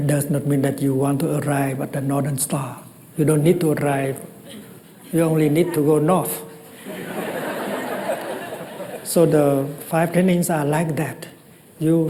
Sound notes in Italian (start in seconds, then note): 6.7 Risata